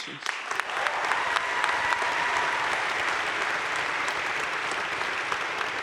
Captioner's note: audience cheering and applauding